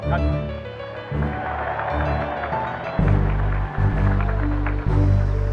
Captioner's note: applause